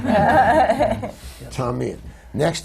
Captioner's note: laughter